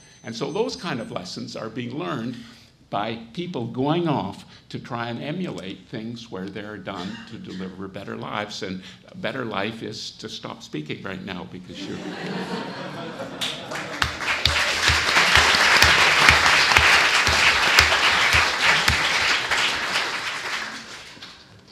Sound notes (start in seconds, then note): 12.4 audience laughs; 14.2 audience applauds